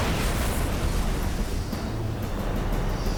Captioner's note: explosion